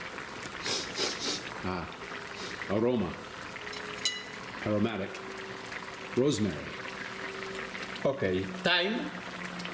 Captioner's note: sniff, sniff